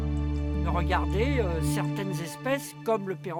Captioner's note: speaking French